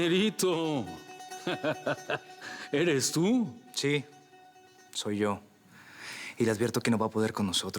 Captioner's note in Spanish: Risas